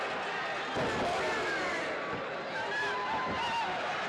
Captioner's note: crowd chattering; wrestlers stomp